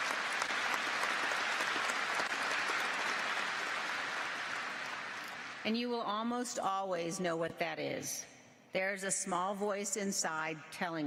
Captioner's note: applause